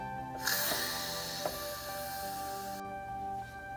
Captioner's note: steam hissing